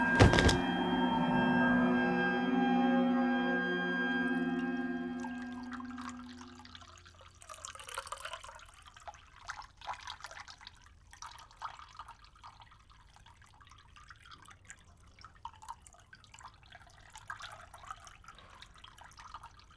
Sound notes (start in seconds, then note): 4.7 coffee pouring